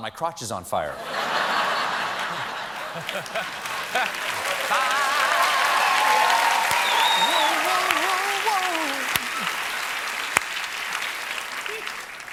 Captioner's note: laughter